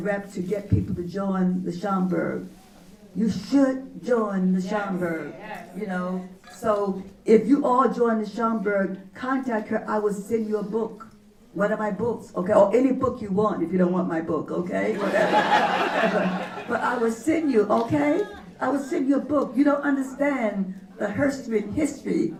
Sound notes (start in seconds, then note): 14.9 laughter